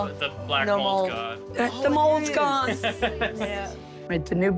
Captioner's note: laughing